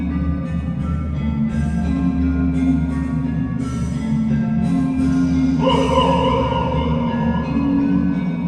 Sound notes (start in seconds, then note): 5.6 echoed yell